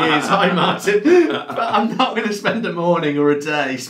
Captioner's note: both laughing